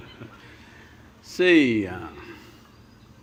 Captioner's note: Sadhguru Laughs